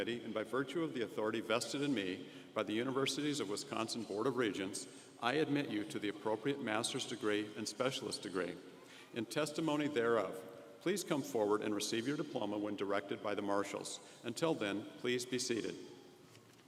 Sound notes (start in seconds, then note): none